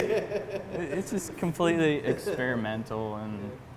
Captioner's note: laughs